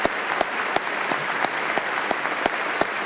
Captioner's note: applause